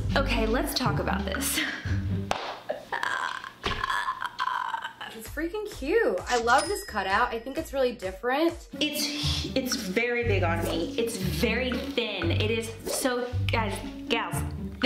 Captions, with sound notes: - Okay, let's talk about this. (speechless croaking) - It's freakin' cute. I love this cutout, I think it's really different. - It's, it's very big on me. It's very thin, it is so, guys, gals,